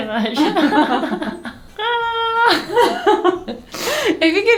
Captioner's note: laughing